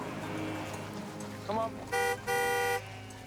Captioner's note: horn honks